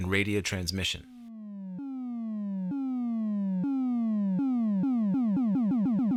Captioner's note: sound effects playing